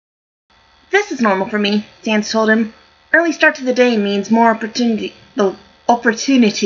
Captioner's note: last word in an English accent